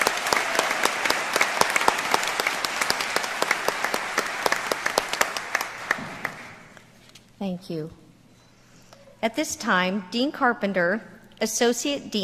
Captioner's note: applause